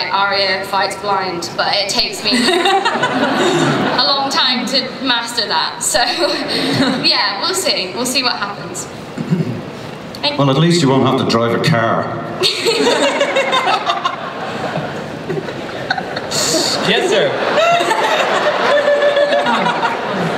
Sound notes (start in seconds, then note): 6.4 laughs; 12.4 laughter